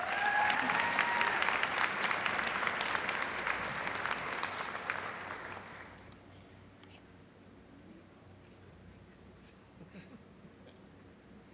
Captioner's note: applause